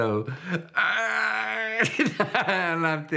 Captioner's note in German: Leidende Laute